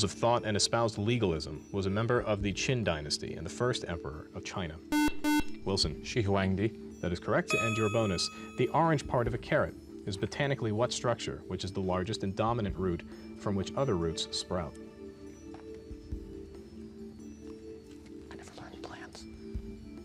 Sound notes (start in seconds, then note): 13.6 whispering; 19.0 whispering